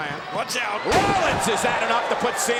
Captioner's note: body thudding